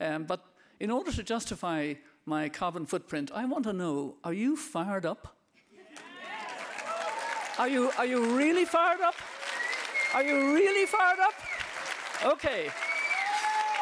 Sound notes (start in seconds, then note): 6.0 audience applauding